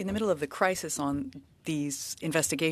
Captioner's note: speaking French